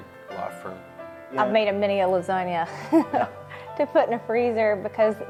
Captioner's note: laughs